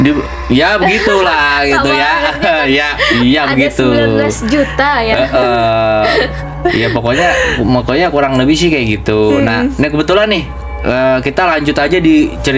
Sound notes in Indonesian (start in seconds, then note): 2.1 tertawa; 6.8 terkesiap